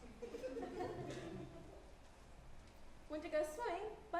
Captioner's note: audience chuckles